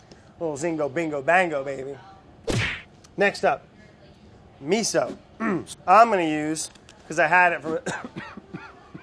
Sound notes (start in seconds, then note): 2.4 punching noise; 7.8 coughs